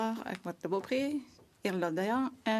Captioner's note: speaking French